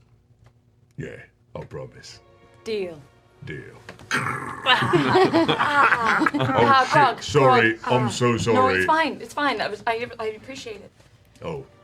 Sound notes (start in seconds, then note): 3.8 cracking noise; 4.7 laughter